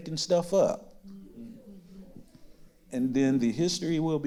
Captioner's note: others agreeing